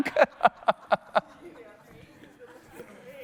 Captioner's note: laughs